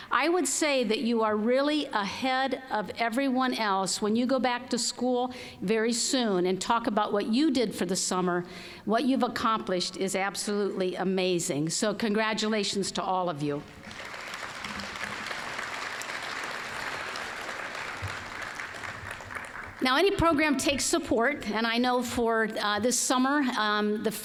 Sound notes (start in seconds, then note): 13.7 applause